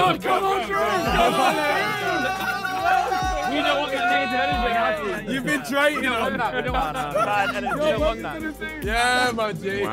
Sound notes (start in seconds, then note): 0.0 Sidemen laughing; 6.9 Sidemen chatter